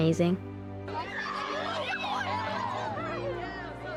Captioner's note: joyful screaming